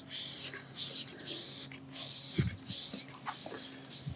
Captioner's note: liquid spraying